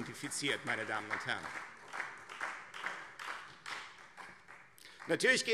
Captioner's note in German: Beifall Freie Demokraten